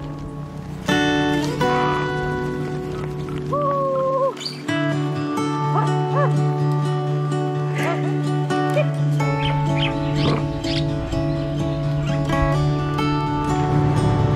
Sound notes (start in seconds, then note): 3.4 voice calling; 9.7 birds chirping